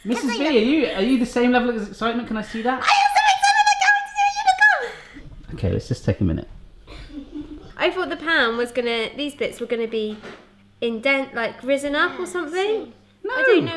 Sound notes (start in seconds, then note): 4.4 squealing; 7.3 giggling